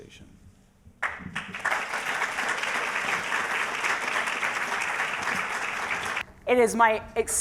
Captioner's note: applause